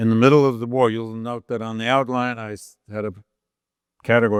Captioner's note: none